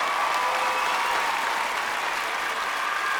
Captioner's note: clapping and cheering